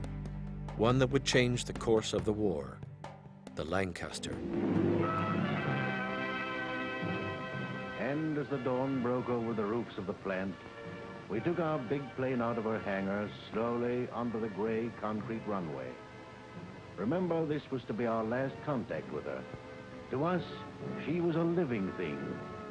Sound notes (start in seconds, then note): 4.0 old band music; 7.5 voiceover